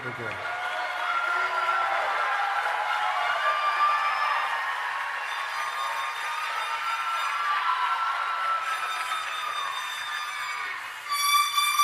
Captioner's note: applause